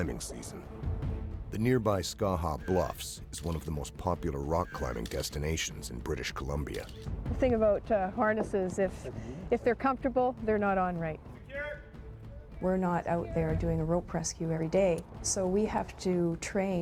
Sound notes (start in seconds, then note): 5.4 voiceover